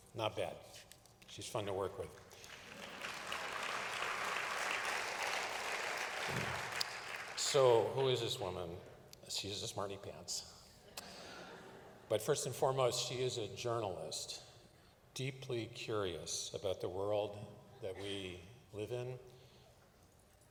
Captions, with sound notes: Not bad. She’s fun to work with. [APPLAUSE] So, who is this woman? She’s a smarty pants. [LAUGHTER] But first and foremost, she is a journalist, deeply curious about the world that we live in,